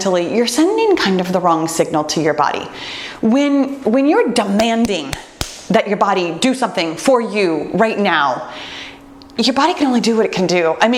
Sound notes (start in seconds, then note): 4.6 smacks hands